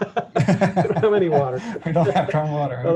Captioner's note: laughing